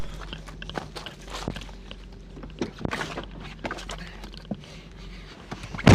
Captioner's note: Tim pants; camera shuffles